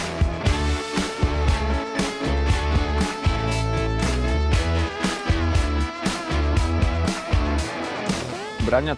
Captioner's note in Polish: Aplauz